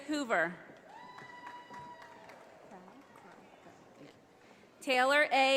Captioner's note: audience applauding